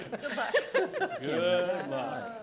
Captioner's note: all laughing